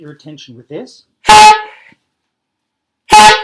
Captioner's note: honks horn